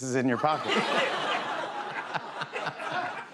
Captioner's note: laughter